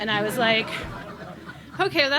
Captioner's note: laughs